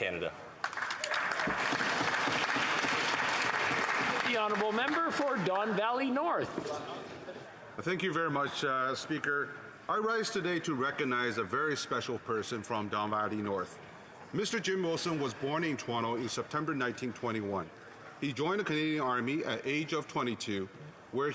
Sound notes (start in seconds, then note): 3.1 applause